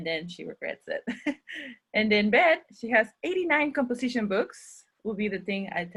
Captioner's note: chuckles